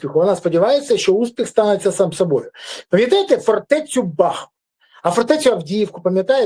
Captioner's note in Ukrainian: сопіння